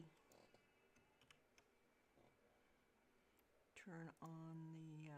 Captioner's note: mouse and keyboard clicking